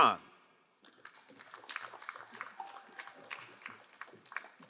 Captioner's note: crowd applauding